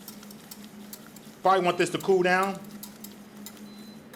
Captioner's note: whisk clinks